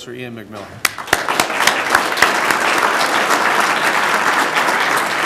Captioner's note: applause